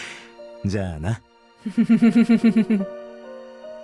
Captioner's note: chuckles